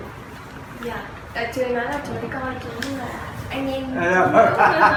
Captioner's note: translates in Vietnamese; laughing